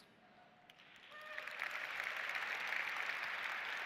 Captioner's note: applause